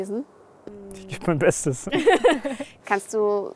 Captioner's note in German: Lachen